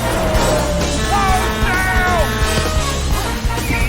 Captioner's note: horn blaring